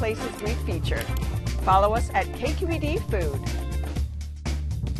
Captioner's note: mouse clicks